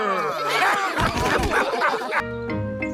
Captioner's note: all laugh